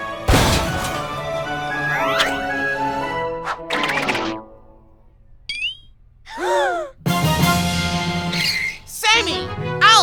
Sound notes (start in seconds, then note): 6.3 gasp